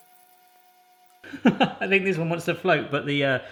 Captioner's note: laughing